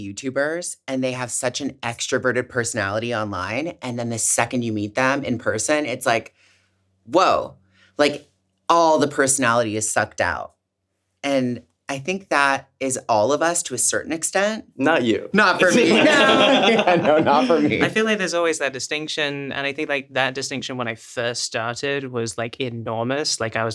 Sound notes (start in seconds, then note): 15.6 everyone laughs